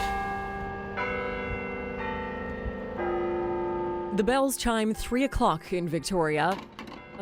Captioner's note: bells tolling